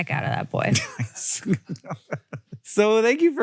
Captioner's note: Hank laughs